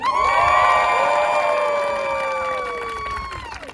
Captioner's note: all cheering and applauding